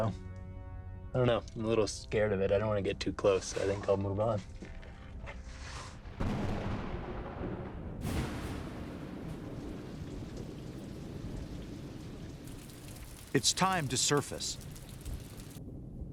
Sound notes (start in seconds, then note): 6.3 thunder roaring; 8.1 rain falling